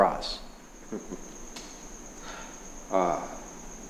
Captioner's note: Fire Cloud chuckling